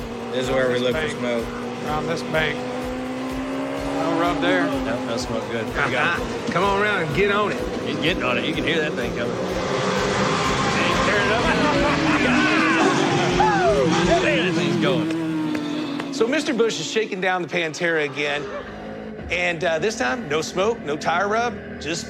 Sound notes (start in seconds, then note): 5.9 laughs; 8.9 engine revving; 11.5 laughter